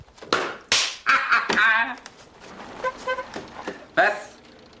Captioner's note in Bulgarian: Смее бурно